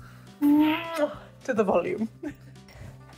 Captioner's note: smooch sound